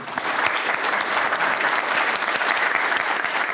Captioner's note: applause